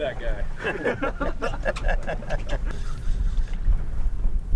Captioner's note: laughing